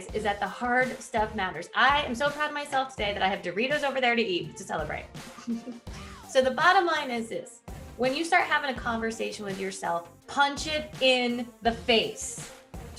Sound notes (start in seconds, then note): 5.3 chuckling